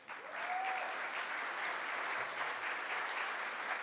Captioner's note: audience applauds